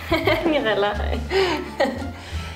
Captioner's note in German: lacht